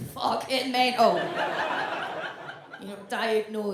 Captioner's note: audience laughs